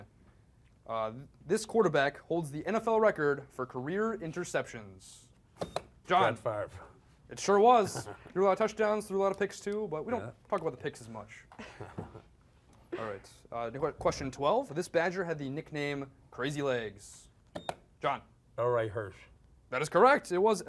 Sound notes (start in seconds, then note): 5.6 beep; 11.5 laughs; 17.5 beep